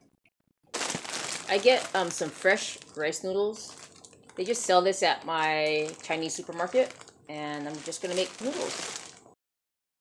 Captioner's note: bag crinkles